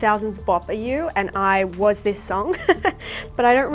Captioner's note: laughing